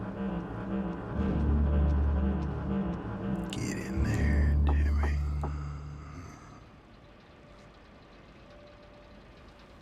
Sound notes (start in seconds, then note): 6.5 hand knocking